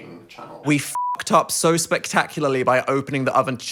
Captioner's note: beep